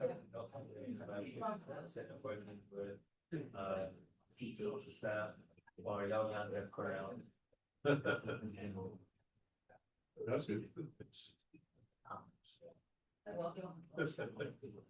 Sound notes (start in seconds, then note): 8.4 chuckle; 13.9 laughter